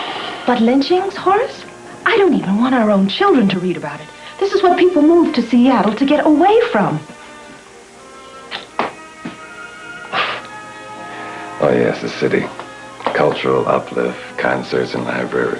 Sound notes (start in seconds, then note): 8.3 kiss; 10.1 chuckle